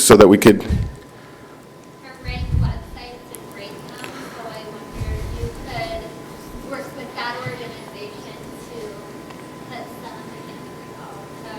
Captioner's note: speaking off microphone